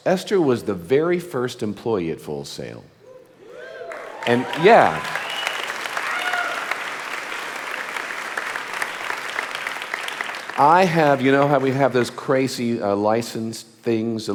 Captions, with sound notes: Esther was the very first employee at Full Sail. And yeah. (audience applauding) I have, how we have those crazy license things